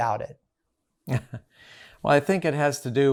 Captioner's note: chuckles